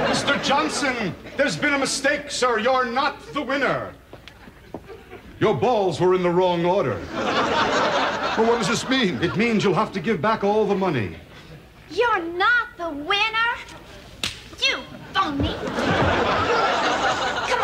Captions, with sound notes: - Mr. Johnson, there's been a mistake, sir, you're not the winner. Your balls were in the wrong order. (laughing) - But what does this mean? - It means you'll have to give back all the money. - You're not the winner. (slapping) You phony. (laughing)